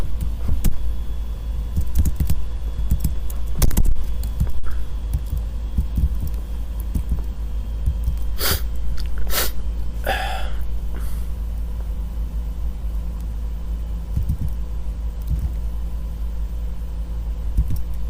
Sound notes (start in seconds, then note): 8.4 sniff; 10.0 exhale